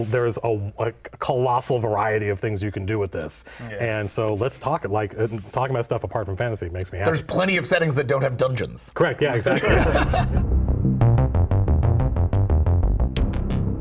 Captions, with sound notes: there is a colossal variety of things you can do with this. - Yeah! - And so let's talk it like, talking about stuff apart from fantasy makes me happy. - There's plenty of settings that don't have dungeons. - Correct, yeah, exactly! (laughter) (electronic rock music)